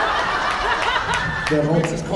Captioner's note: laughs